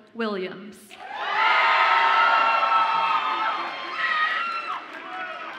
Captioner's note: audience applauds and cheers